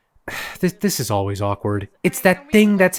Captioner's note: sighs